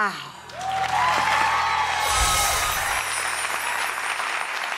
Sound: applauding

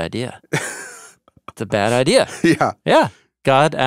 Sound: chuckling

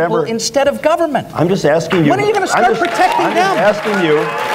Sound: applause

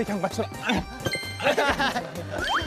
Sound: ehehehe

